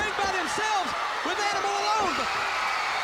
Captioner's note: crowd cheering